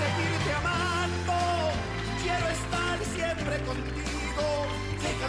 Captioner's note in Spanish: Aclamaciones